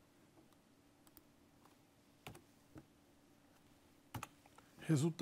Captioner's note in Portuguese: ruídos do teclado